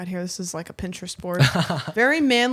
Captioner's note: laughs